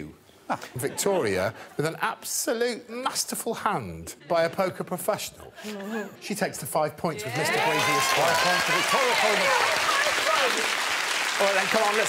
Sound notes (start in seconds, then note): 7.3 all applauding